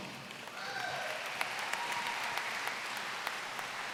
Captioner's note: applause